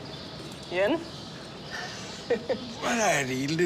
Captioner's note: chuckles